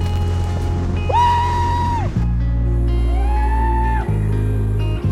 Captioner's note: man whooping